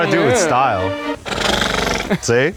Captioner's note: horse snorts